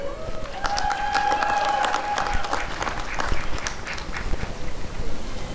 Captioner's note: applause and cheering